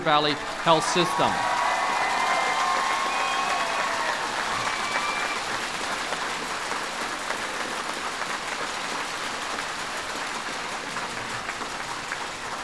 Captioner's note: applause